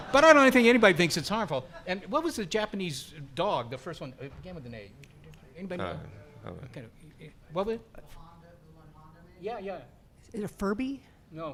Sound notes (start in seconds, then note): 6.7 muttering